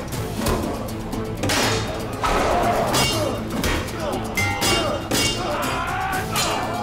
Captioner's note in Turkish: Kılıç sesleri